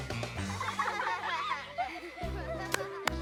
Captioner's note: children laughing